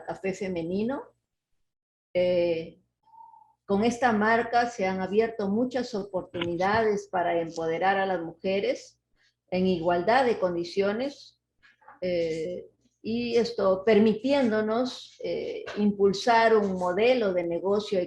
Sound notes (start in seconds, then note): 8.0 speaking Spanish